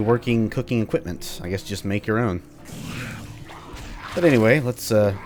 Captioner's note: Bugdogs snarl, Cannibal joins them